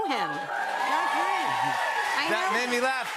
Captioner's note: cheers and applause